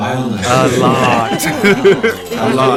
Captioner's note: haha